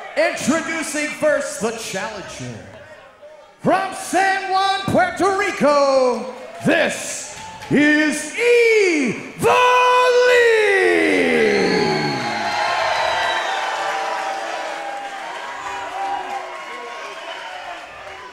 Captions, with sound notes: - Introducing first the challenger from San Juan Puerto Rico, This is Ivelisse! This is Ivelisse! This is Ivelisse! - (crowd booing) (crowd cheering)